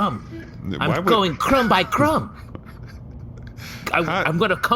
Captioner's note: more giggling